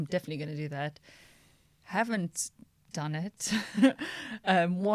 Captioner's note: laughter